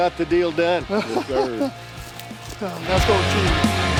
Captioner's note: laughs